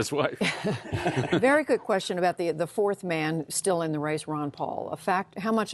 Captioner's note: laughter